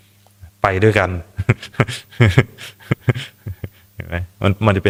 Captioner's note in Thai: เสียงหัวเราะ